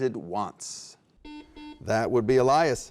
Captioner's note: beeping